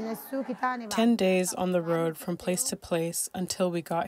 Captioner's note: through translator